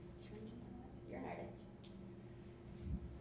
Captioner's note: speaks quietly